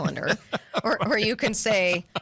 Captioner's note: laugh